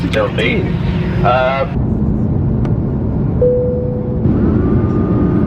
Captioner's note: low engine rumbling